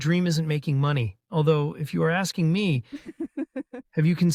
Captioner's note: Cassandra giggles